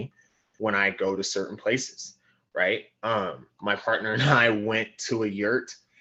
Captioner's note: laugh